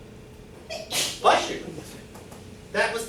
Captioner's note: student sneezes